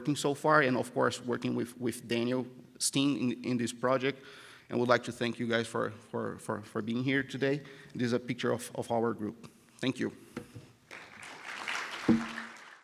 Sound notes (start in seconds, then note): 10.9 round of applause from audience